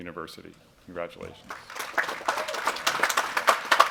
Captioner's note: applause